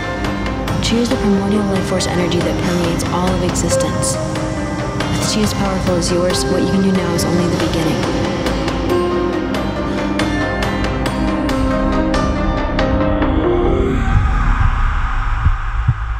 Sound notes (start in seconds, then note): 10.2 dramatic music continues; 14.0 demon screams; 15.5 heart beat thudding; 15.5 suspenseful music